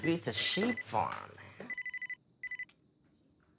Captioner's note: susan's phone rings